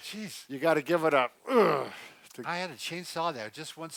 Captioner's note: grunt